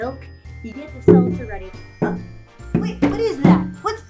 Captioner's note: snowballs thump